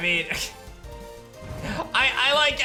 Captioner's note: chuckles